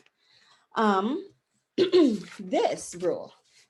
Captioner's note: clears throat